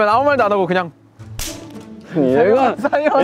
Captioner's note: snaps